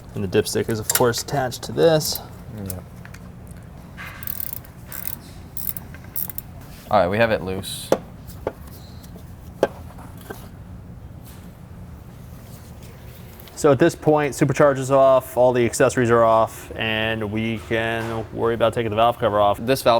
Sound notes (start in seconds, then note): 4.1 ratchet clicking